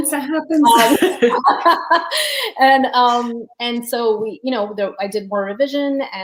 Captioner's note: laughs